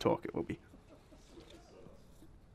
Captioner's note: audience laughter; voiceover